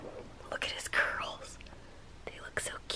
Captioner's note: whispering